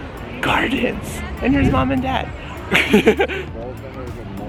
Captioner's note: lols